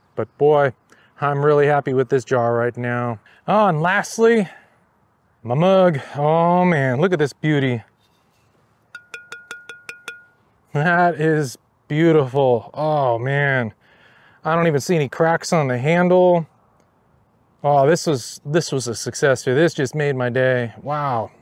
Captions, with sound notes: But boy, I'm really happy with this jar right now. Oh, and lastly. My mug. Oh man, look at this beauty. [Ceramic Dinging Sound] That is...beautiful. Oh man. I don't even see any cracks on the handle. Oh, this was a success right here. This just made my day.